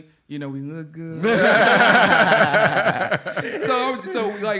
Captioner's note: laughter